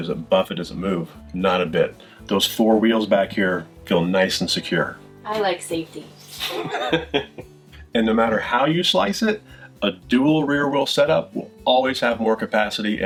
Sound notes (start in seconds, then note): 6.3 chuckles